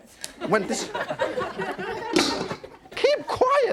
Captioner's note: audience laughing; wok lid clanking